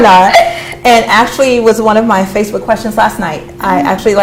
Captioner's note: laughter